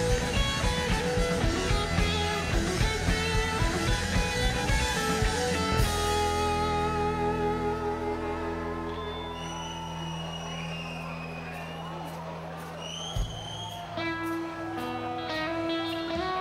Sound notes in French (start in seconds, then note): 8.6 sifflements